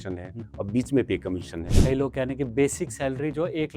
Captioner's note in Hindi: नाक से की जाने वाली आवाज़